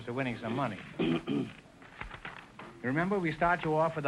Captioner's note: pages rustling